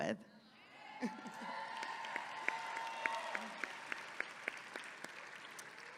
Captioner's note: audience clapping and cheering